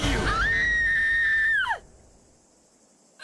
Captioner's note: Courtney Screaming